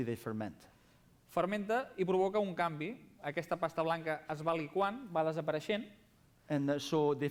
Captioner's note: non-english speech